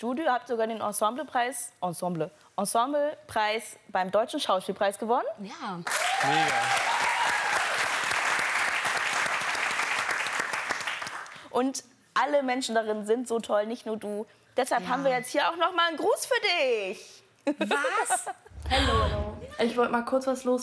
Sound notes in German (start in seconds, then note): 5.9 Jubel, Applaus